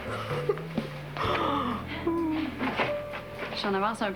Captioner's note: Rires